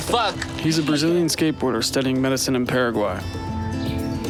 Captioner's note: laugh